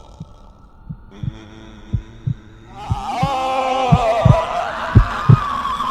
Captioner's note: ghost wails louder; heartbeat